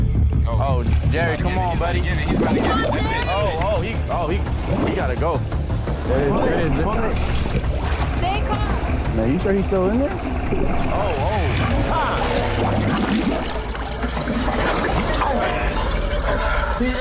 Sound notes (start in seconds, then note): 4.1 water gurgling; 5.8 dramatic music; 14.5 water gurgling